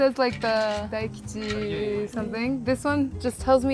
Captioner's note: speaking foreign language